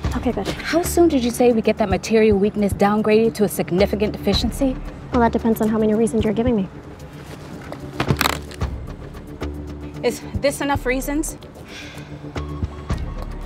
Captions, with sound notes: - Okay, good. - How soon did you say we get that material weakness downgraded to a significant deficiency? - Well, that depends on how many reasons you're giving me. (tense music) (latches snapping) - Is this enough reasons?